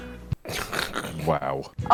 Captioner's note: laughing